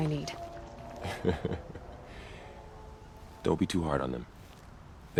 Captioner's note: laughs